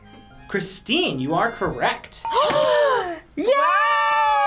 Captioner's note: both gasp